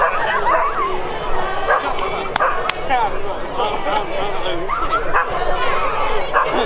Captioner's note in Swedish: Applåder